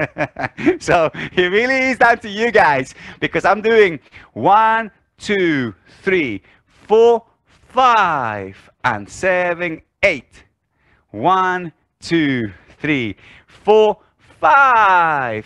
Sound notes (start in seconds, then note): 0.0 laughs